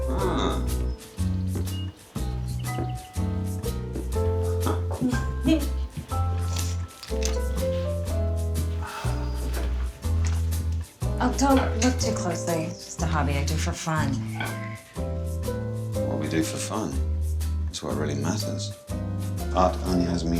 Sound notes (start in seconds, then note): 4.5 giggles; 4.6 chuckles; 9.4 sighs